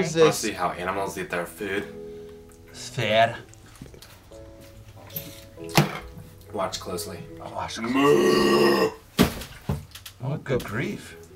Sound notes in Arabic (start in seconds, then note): 2.8 موسيقى هادئة; 9.2 يضرب الرأس الطاولة; 11.1 يضرب الطاولة بشكل متكرر